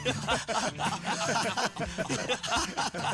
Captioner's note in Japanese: 笑い